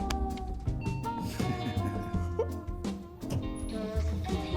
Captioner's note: ding; laughter